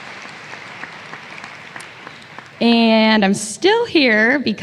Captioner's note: applause